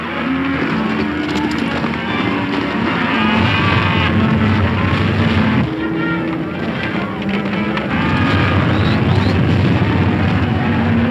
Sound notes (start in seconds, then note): 0.6 Silver galloping; 3.4 cows stampeding; 8.0 cows stampeding